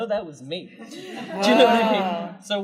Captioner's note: laughter